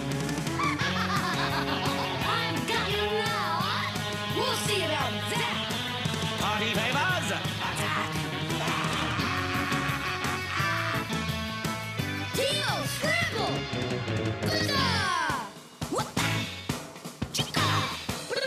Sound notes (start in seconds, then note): 0.5 lady laughing malevolently; 8.5 man laughing malevolently